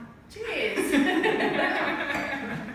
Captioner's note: all laugh